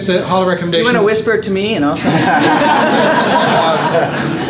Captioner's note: laughter